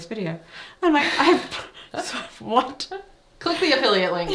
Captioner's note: both laughing